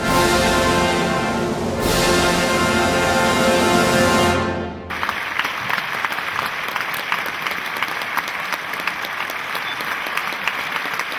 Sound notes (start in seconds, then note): 4.8 audience applauding